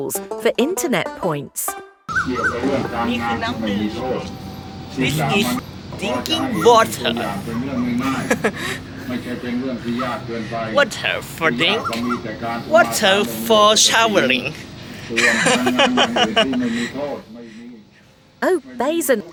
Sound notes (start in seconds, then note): 8.2 laugh; 15.0 laugh